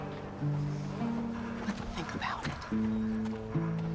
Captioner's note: whispers